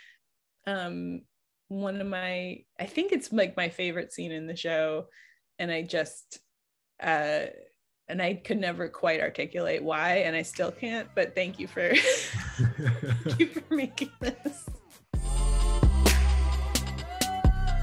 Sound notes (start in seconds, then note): 11.5 laughs; 15.0 upbeat music